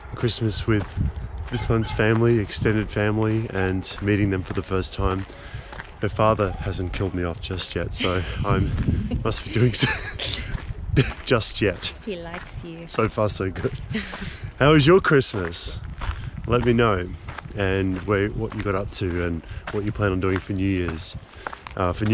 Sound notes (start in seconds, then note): 9.0 laughs